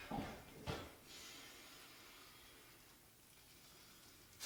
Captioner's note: none